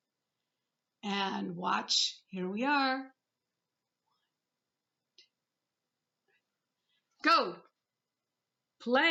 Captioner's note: whispers. One, Two Ready